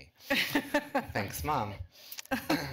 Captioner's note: laughter